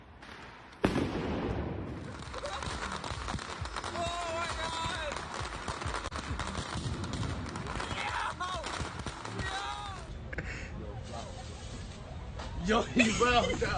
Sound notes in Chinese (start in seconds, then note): 0.8 槍聲; 3.9 鞭炮聲